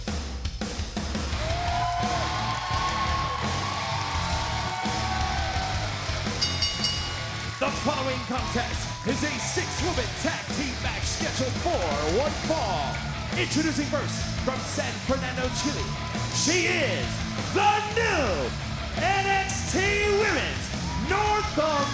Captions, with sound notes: (upbeat music) (crowd cheering) (bell dinging) The following contest is a six-woman, tag-team match scheduled for one fall. Introducing first, from San Fernando, Chile. She is the new NXT Women's North American Champion.